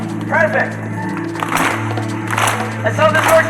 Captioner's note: audience clap; audience clapping